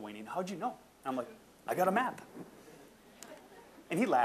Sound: audience chuckling

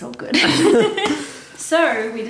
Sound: laughing

